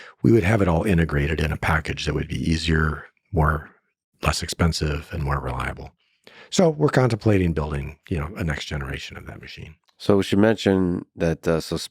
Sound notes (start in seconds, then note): none